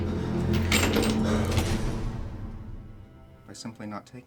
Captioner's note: chains clanking